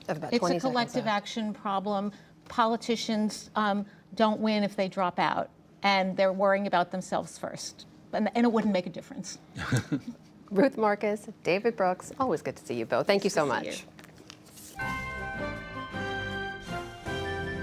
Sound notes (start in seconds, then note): 9.6 laughter